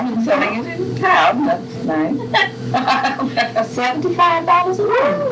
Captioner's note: laughter